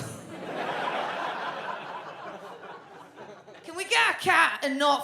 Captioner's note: audience laughs